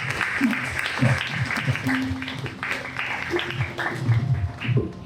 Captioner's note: applause